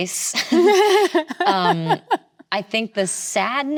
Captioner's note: both laughing